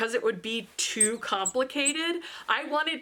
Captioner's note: squeaks